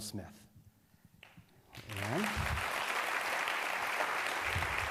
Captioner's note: applause